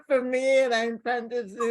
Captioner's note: laughter